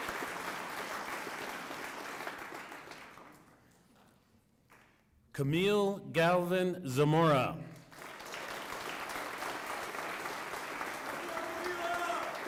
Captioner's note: applause